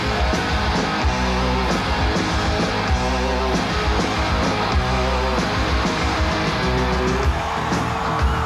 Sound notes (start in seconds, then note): 0.0 audience cheering; 0.0 hard rock music